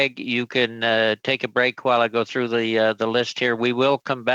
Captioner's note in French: voix de l'interprète